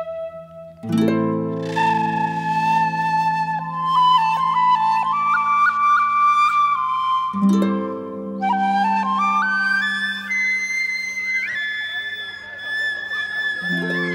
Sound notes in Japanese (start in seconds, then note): 11.5 子供たちの話し声と笑い声